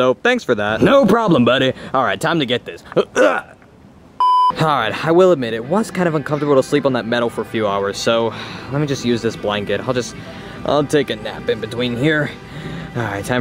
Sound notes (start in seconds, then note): 3.1 grunts; 4.2 beeps